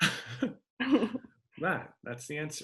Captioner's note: laughing